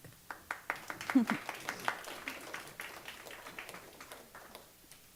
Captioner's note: clapping